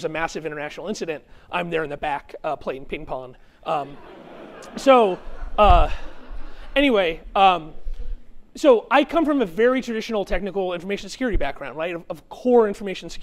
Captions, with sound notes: a massive international incident, I'm there in the back playing ping-pong. [CHUCKLING] So anyway, so I come from a very traditional technical information security background of core information